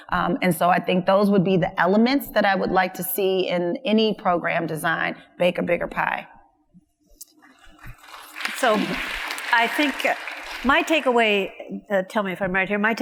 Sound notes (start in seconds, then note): 7.7 audience applauds